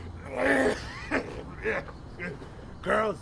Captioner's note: hacking, Wheezing, Etc; downright Pestilential Coughing